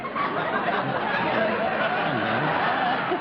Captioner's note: laughter